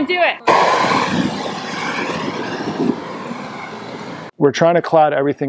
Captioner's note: fire whooshing